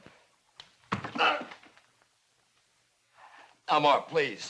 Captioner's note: groans